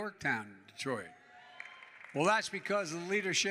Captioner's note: applause